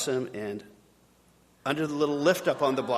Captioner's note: audience gasping